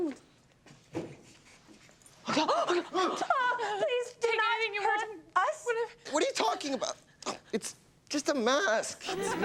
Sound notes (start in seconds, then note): 2.4 everyone gasps